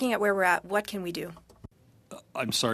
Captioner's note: speaking French